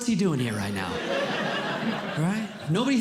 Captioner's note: audience Laughing